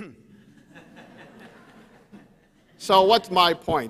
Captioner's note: audience chuckles